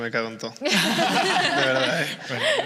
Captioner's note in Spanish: algunos ríen